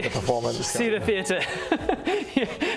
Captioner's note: laughs